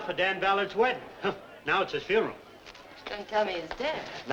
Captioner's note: scoffs